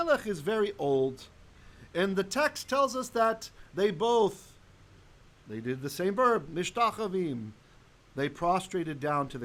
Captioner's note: Hebrew